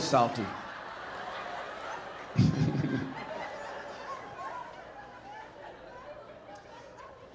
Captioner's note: audience laughing; laughing